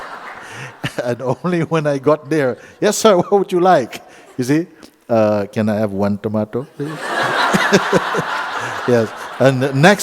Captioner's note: laughter; laughter